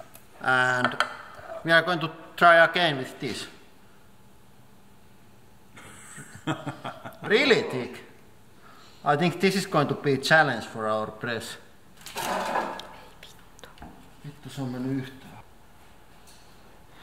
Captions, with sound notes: and... we are going to try again with this *manly laugh* REALLY thick I think this is going to be a challenge for our press [Swearing in Finnish] It doesn't go in at all.